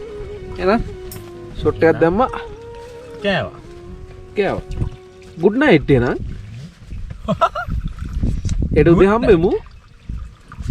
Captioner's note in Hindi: हंसते हुए